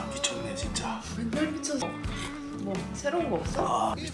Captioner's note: slurp